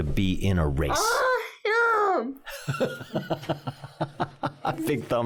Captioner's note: laughing